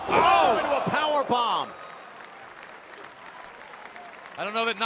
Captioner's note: crowd cheering